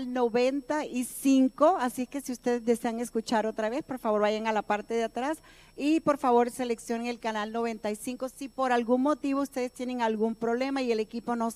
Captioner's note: speaking in native tongue